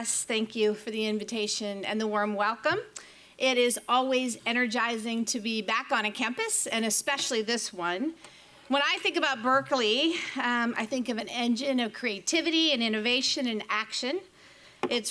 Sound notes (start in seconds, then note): none